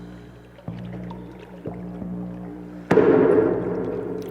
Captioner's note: water sloshing; foot stomps